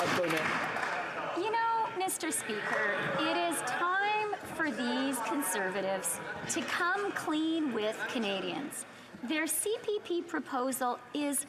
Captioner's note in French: voix de l'interprète